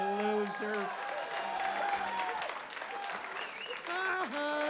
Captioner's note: vítores y aplausos